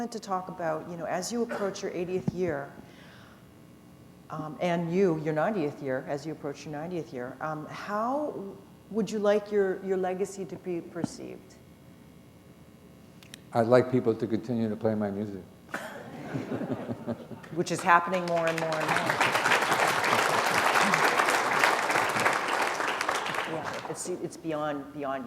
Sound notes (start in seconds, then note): 15.7 laughter; 22.0 applause